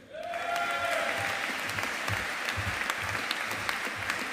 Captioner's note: audience applauding